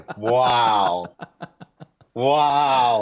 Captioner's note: laughter